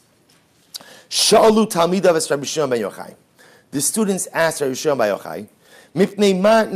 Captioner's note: Hebrew